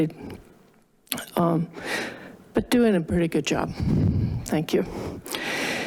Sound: inhales

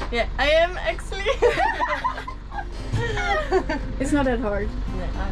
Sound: laughs

